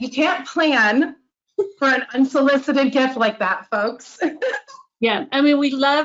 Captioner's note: laughs